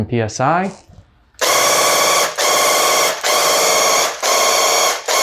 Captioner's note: paint gun blasting